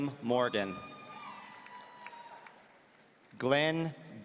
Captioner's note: audience cheering